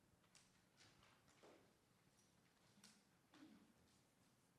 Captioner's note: papers rustling